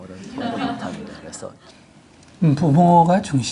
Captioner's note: audience Laughter